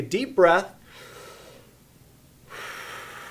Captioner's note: exhales audibly; inhales audibly